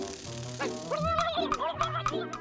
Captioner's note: gobbles angrily